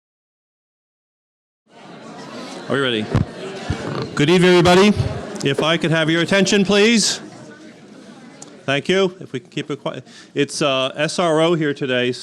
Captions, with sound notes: (audience chattering) - Alrighty. Good evening, everybody. If I could have your attention, please. Thank you, keep it quiet, it's SRO here today,